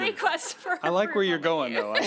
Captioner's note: laughter